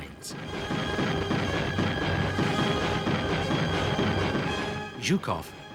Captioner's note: dramatic symphonic music; explosions booming